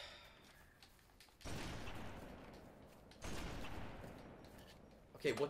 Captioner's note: controller clicking; explosions on gaming system